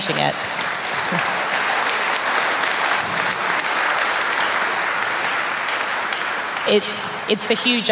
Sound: applause

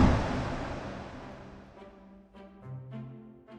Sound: wind whooshing

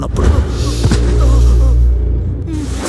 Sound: stabbing

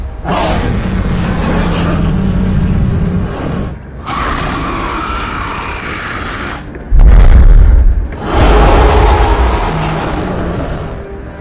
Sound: Spinosaurus Growls and Stomping Sounds

